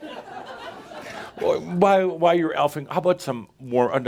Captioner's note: more laughter as comes in looking contrite